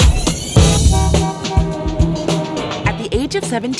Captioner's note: cars honking